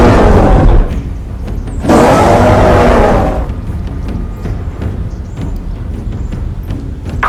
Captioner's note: Kong roaring loudly